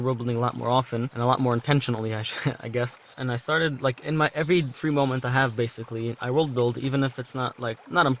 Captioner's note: chuckle